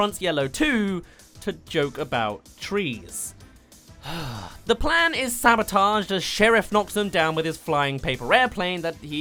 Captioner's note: sigh